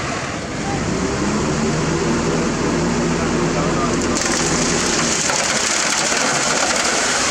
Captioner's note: rumble